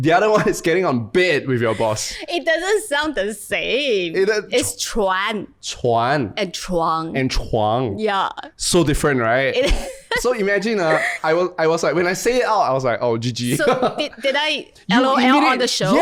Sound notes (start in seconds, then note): 10.8 laughs